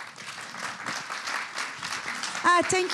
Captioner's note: applause